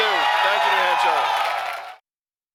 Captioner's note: cheering and applause